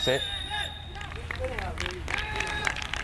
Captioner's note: whistle tweeting; people applauding